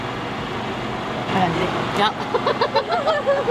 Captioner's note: laughter